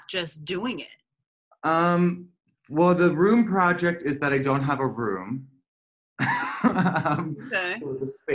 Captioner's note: laughter